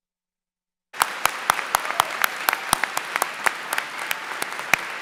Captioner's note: applause